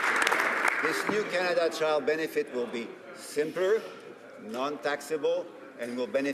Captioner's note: applause